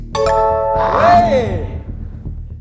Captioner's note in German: Jubeln